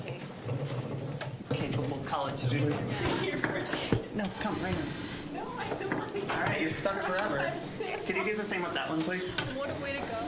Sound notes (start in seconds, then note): 3.6 general chatter